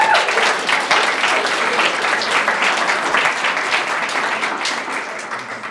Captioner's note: audience cheering and applauding